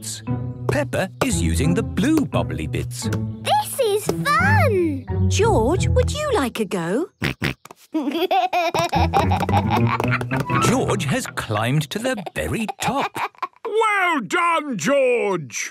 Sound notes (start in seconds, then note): 7.8 snorts, giggles